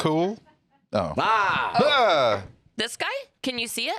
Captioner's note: both yelling